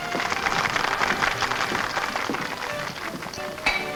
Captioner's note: patrons clap